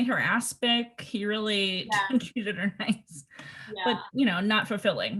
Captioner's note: laughs